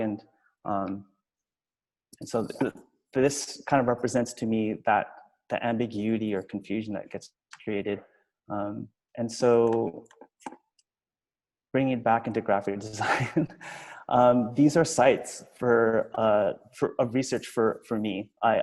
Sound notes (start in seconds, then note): 13.1 laughs